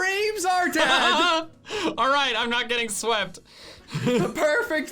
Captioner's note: laughs